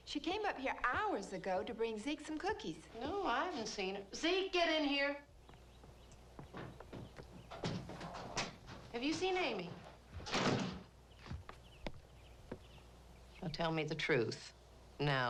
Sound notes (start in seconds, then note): 10.2 door thuds